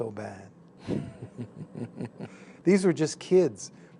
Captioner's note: chuckle